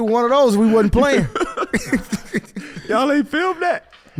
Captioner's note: everyone laughing